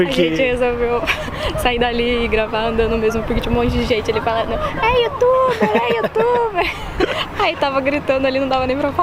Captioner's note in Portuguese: risos